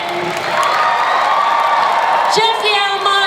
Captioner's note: audience cheers